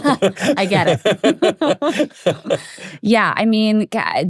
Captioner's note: group laughing